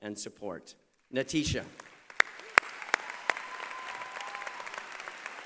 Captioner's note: applause